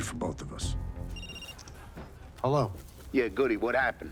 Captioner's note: phone rings